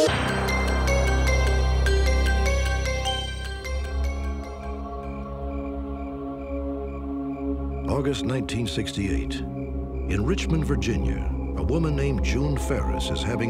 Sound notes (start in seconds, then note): 4.8 crickets chirping